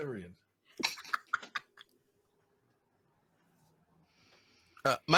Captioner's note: laughing